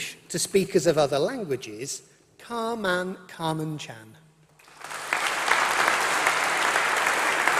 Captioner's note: applause